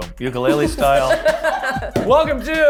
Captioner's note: group laughs